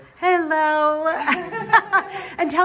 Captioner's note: laughing